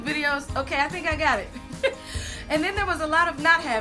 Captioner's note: laughs